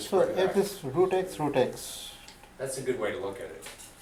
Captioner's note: voiceover